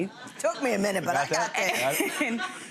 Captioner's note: audience chuckling